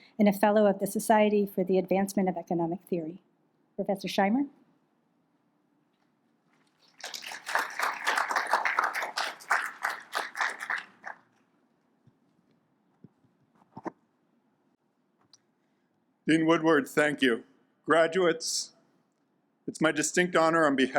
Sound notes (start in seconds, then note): 6.8 audience claps